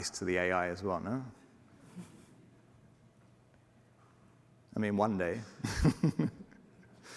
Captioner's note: laughter